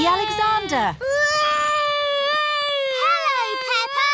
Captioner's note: continues wailing